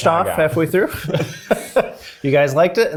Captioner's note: laughs happily